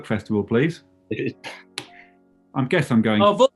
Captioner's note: laughs